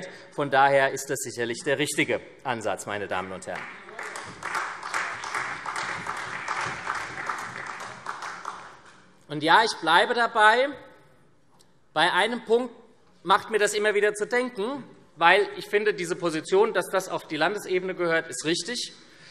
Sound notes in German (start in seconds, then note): 3.4 Beifall SPD und Freie Demokraten